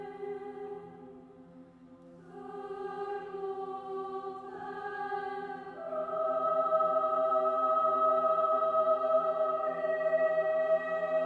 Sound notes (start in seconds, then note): none